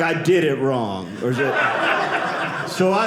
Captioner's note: audience laughing